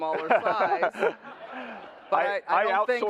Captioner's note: laughter